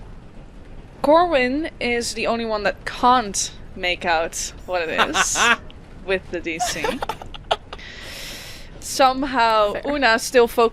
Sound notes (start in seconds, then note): 6.6 laughter; 9.0 laughing